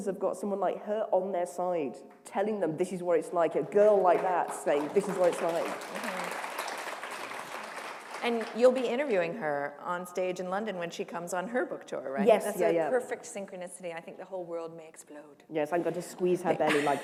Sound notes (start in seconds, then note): 7.3 applause